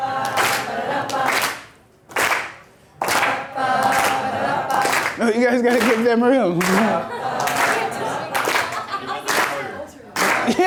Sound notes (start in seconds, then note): 0.3 voiceover; 6.6 laughs; 7.4 voiceover